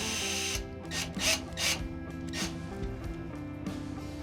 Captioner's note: drill whirring